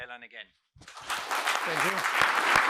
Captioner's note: applause